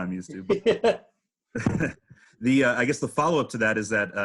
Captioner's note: chuckling